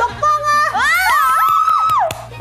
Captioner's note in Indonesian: Cheer